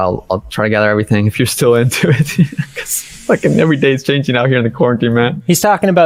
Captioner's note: laughs